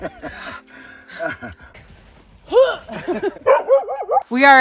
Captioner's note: Camper barking; both grunting